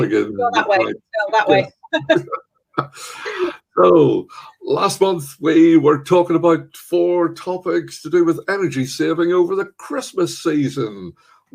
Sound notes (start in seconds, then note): 2.8 laughs